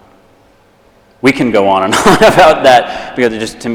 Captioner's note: laughs